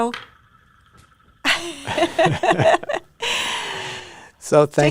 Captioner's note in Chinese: 笑聲